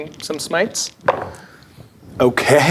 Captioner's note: dice rolling